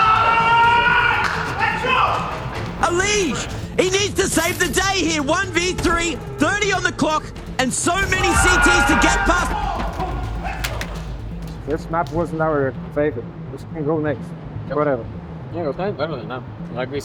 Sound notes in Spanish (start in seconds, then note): 7.8 el equipo grita